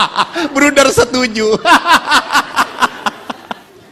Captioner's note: pastor laughs: ha ha ha; ha ha ha